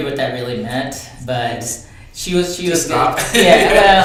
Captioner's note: laughs